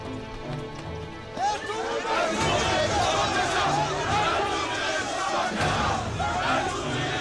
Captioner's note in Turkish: Hep bir ağızdan